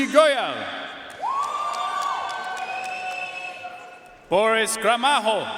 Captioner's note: audience cheering and applauding